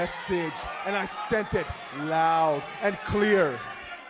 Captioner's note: speaking in foreign language